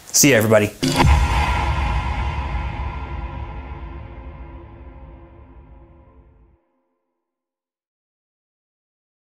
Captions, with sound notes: See you everybody. (outro swoosh)